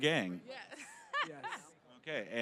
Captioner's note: all laughing